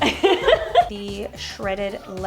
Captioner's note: both laugh